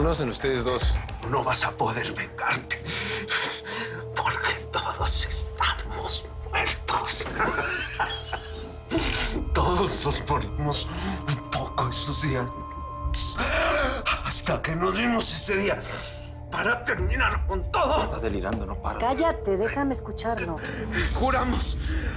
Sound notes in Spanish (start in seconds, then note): 7.4 Risas; 12.6 Habla entre dientes